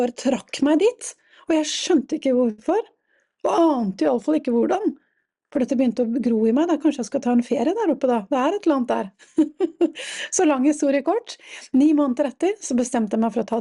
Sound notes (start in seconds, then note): 9.2 laughter